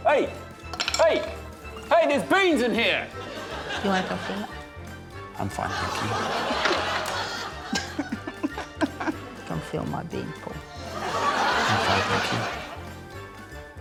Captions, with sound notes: - Hey! Hey! Hey, there's beans in here! - You wanna come feel it? - I'm fine, thank you. (LAUGHTER) - (SOBS) - Come feel my bean, Paul. (SHOCKED LAUGHTER) - I'm fine, thank you.